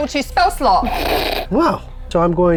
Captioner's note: snorts